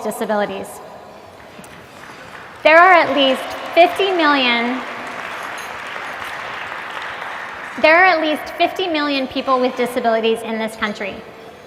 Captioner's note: applause